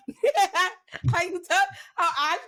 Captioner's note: laughs